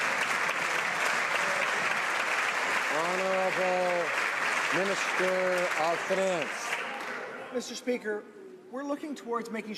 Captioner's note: some Applause